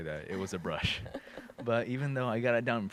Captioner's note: laughs